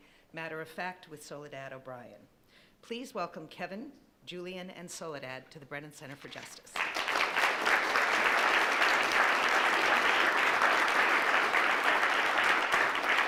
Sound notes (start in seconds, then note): 8.1 applauding